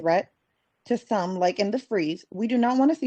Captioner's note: speaking Spanish